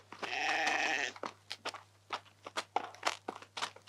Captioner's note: baa